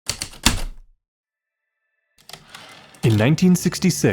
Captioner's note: typewriter keystroke, return slide